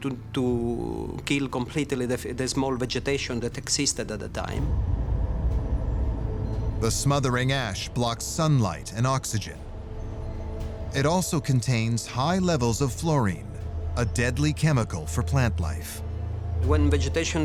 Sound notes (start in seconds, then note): 4.6 deep rumble